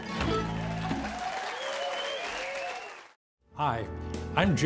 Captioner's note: audience applauding